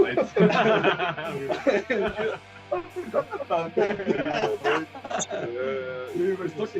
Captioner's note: Смех